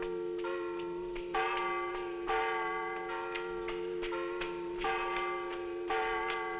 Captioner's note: bell clanging; footsteps rustling